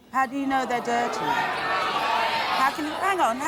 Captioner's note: shouting